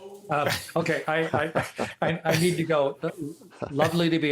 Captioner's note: laughter